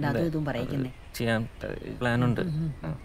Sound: stammering

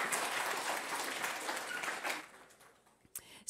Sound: applause

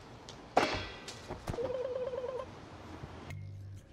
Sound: ABED makes "alien" noises

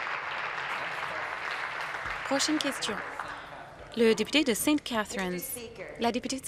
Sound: applause

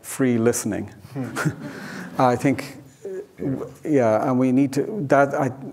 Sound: audience laughing

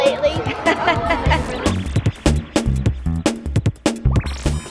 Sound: laughs

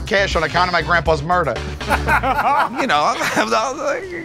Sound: laughter; chuckles

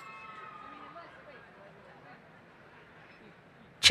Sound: cheering

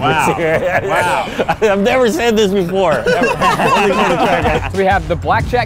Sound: laughs

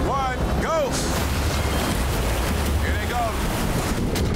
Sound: urgent music; water rushing

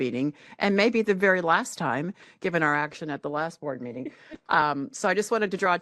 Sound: laughing

